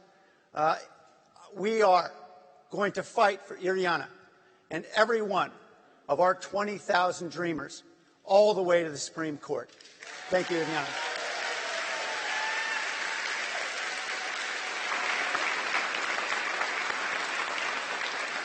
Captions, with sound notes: FOR IRIANA AND EVERY ONE OF OUR 20,000 DREAMERS ALL THE WAY TO THE SUPREME COURT. THANK YOU, IRIANA. [APPLAUSE] >> SO FRIENDS, I COME BEFORE YOU THE EVENING, AS I AM REQUIRED TO